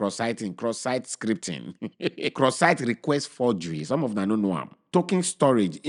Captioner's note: chuckles